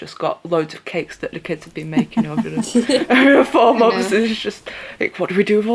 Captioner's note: laughter